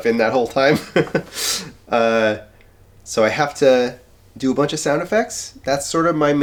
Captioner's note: chuckles